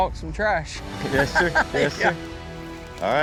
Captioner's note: chuckling